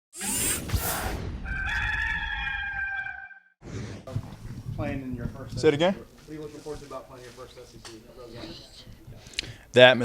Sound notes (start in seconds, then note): 0.2 metallic zinging; 1.4 gamecock crows